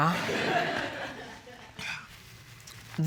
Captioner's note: laughter